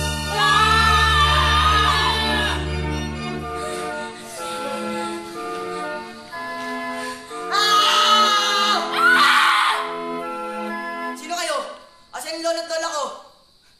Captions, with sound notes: [both screams] Ha? What happened? [screams] [screams] Who are you? Where are my grandparents?